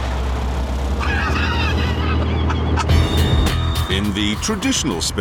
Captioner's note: jeremy laughs